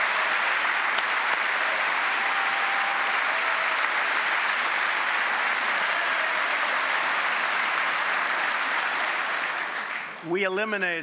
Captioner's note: applause